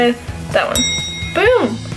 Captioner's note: bell ring